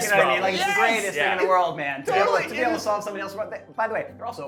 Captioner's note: group chatter